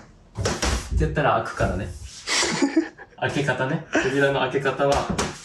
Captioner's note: door; door